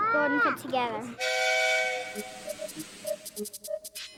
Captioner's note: engine whistles